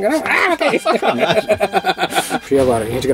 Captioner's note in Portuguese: risos